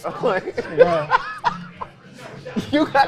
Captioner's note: laughing